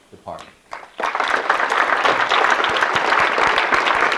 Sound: audience clapping

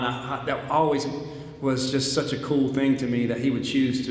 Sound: none

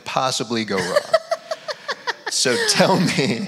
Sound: laughs

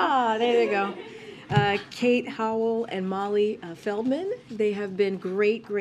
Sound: laughter

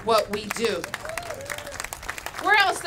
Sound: applause

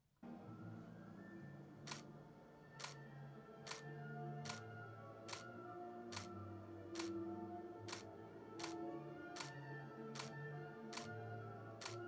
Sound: regular sound of single "S" mode clicks, on toe

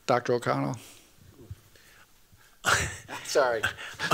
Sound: laughs

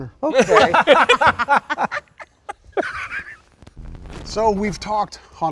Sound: all laughing

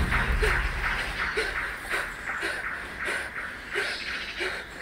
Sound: ominous, drumming music; panting

